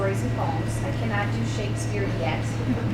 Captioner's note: laughing